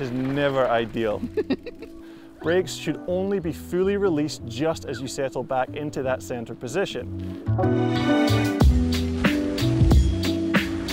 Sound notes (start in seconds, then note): 1.2 laughter; 8.1 pleasant music